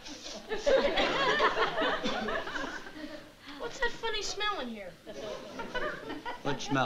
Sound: sniffs

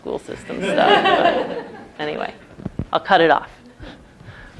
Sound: laugh

